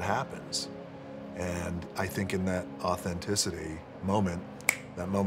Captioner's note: snaps